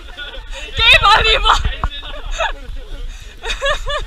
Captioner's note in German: Lachen